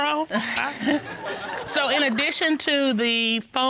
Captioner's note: chuckles